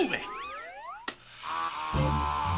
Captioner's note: film reel starts